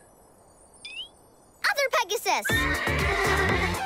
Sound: disc scratching; upbeat music; neighing

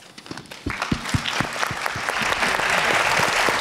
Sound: applauds

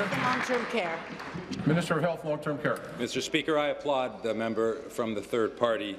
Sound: applause

